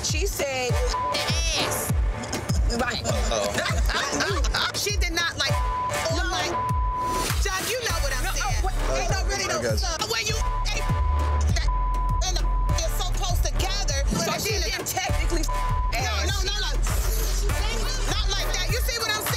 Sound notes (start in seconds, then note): 0.8 beep; 2.6 laughing; 5.4 beep; 10.2 beep; 17.1 slurping